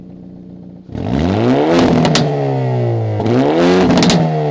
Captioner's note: engine revving